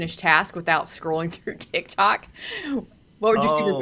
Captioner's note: laughs